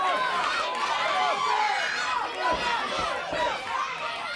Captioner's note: crowd cheering